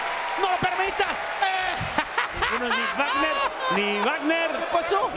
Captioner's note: laugh